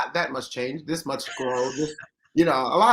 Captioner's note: laughs